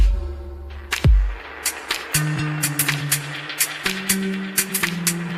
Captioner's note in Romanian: Aplauze